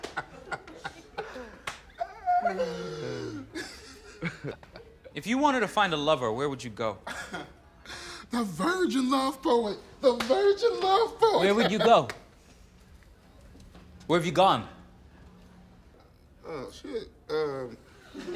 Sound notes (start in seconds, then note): 7.1 laughs; 10.7 laughs; 17.8 laughter